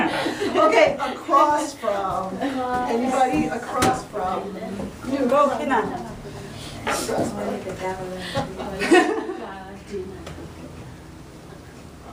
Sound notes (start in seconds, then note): 0.0 laughing; 5.5 voiceover; 8.4 laughing